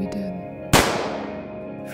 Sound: gunshot

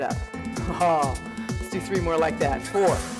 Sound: chuckles

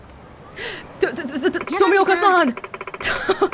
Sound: stutters; chuckles

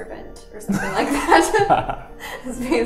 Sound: laughs

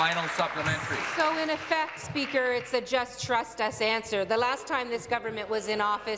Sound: applause

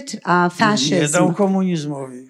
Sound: foreign language

